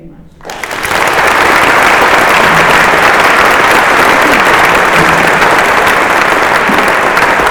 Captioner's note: applause